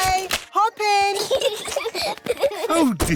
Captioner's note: peppa and george giggling